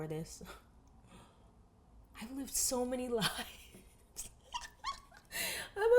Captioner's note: laughs